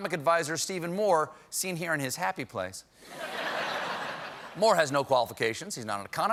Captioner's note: laughter